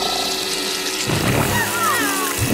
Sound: cooing

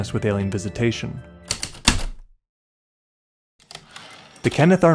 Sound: typewriter keystrokes, return slide

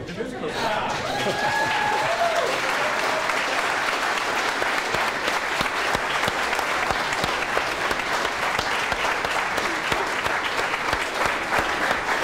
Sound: hands clapping

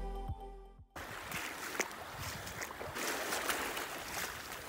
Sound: sploshing footsteps in water and on rocks

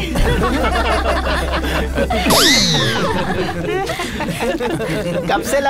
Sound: laughing

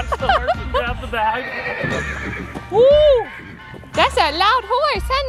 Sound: horse neighs

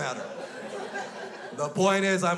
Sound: crowd laughs

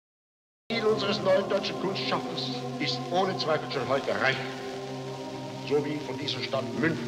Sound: ominous music; speaks foreign language

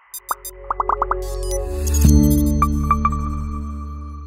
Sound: bubbles popping

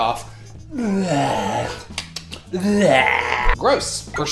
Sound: lip smacking

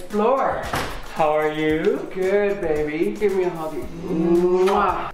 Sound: kissing sounds

